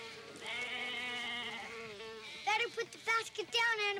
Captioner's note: sheep bleating